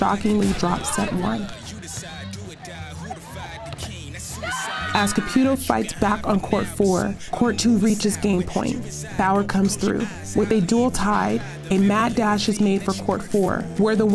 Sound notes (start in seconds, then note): 4.8 players yell